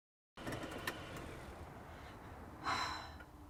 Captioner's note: car engine turns off